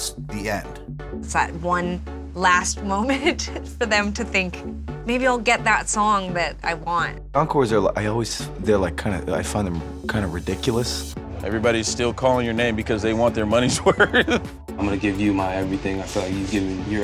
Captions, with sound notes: >> The encore is a chance to push past the end. >> It's that one last [LAUGH] moment for them to think, maybe I'll get that song that I want. >> Encores, I find them kind of ridiculous. >> Everybody's still calling your name because they want their money's worth.